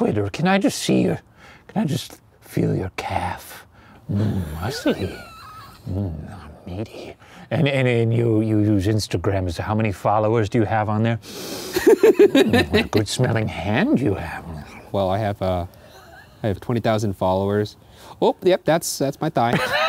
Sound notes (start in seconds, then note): 11.2 inhales deeply; 11.6 laughs